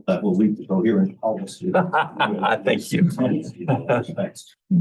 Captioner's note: laughs